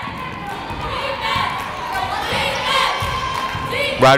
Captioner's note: cheering